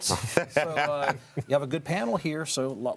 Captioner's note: laughing